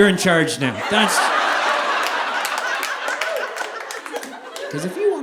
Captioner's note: audience laughing